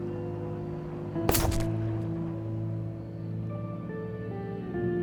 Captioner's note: tranquilizer gun whirring